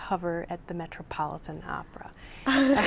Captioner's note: laughs